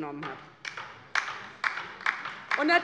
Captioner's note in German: Beifall bei der LINKEN